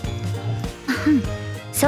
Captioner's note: clears throat